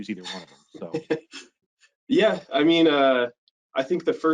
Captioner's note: laughs